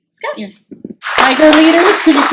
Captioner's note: clapping